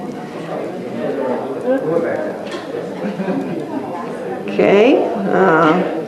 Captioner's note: audience mummers